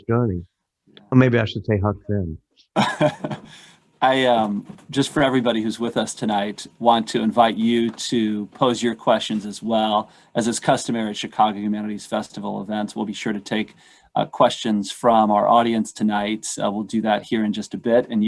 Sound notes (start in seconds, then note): 2.7 laughter